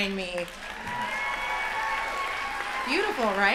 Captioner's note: applause